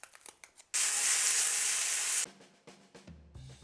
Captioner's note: sizzling sound